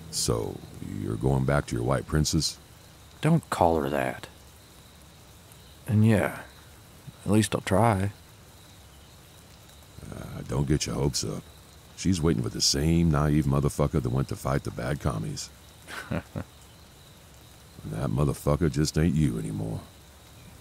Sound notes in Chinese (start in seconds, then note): 15.8 苦笑